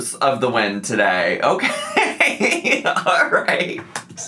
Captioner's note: laughs